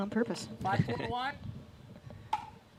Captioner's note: laughs